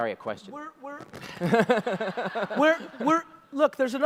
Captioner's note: audience laughter